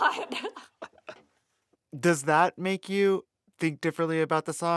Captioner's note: laughter